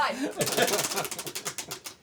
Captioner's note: ratcheting